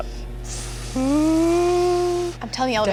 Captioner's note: whizzing